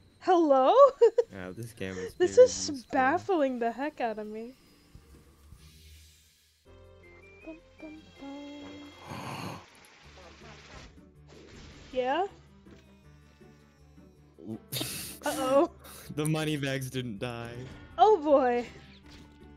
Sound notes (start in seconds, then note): 1.1 laughs; 8.2 gasps